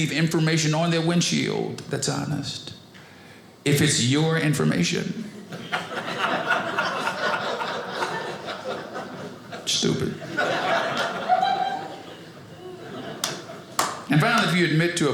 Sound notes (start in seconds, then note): 5.3 audience laughing